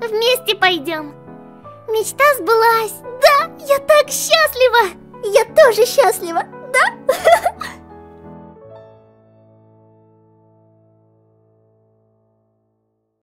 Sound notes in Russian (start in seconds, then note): 6.7 смеется